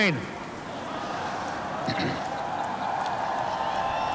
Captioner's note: laughter and cheering